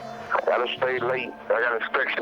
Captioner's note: on phone